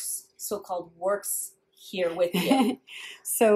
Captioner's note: laughs